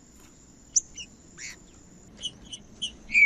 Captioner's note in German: trinca ferro cantando